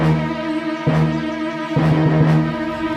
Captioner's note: both Groan; ominous Music